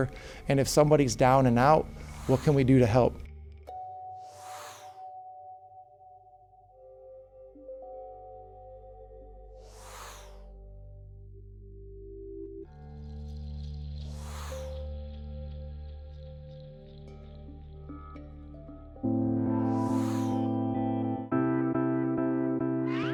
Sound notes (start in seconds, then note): 4.2 graphic whooshing; 5.6 calming music; 9.6 graphic whooshing; 14.0 graphic whooshing; 19.2 peaceful music; 19.6 graphic whooshing